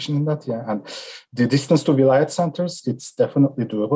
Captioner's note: murmurs